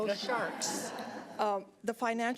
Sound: audience laughing

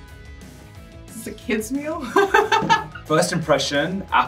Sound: laughs

